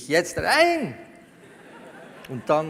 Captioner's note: laughter from the audience